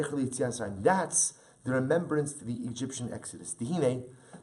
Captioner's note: Hebrew